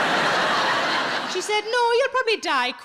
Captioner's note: audience laughs